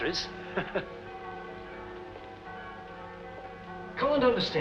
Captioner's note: church Bells